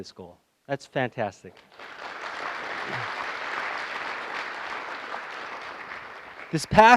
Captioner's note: applause